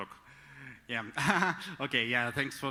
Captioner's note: laughs